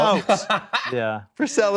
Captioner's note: laughing